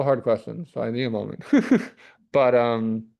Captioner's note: chuckles